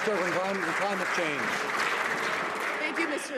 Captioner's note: some Applause